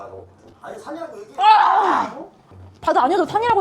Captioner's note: Frustrated